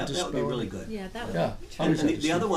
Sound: voiceover

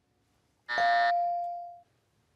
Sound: bell dings; buzzer

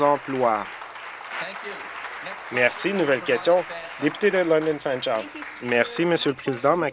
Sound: applause

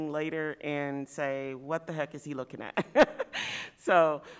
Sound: laugh

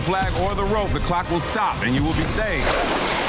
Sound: explosion booming; water splashing

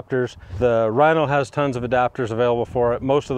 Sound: image whooshing

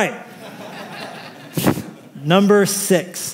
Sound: laughter

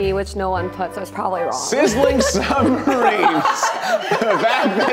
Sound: cast laughs

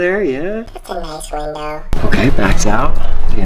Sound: hamster Voice

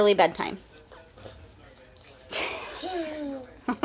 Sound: chuckling

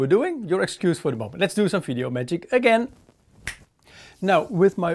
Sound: snaps

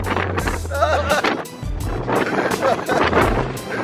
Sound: laughing

